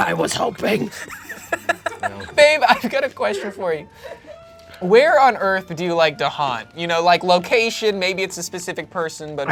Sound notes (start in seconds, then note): 0.9 laughs